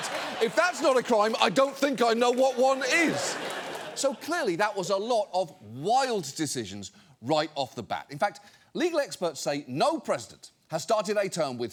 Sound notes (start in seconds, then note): 2.5 studio audience laughs